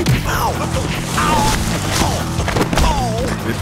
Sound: groaning

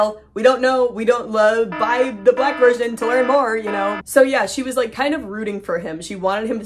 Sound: stammering

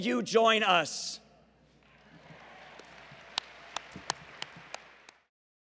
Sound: applause

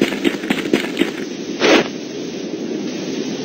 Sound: zipping open

